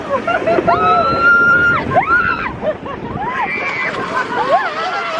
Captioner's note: riders screaming